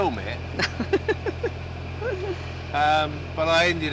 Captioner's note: laughter